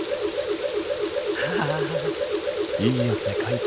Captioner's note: stammer